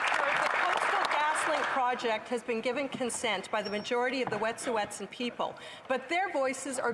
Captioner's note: applause